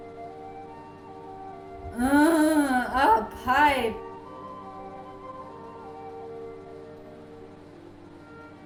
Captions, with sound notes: (Moaning) "Uhhh, pipe. "